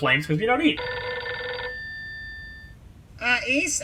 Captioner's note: muffled “analog phone” ringtone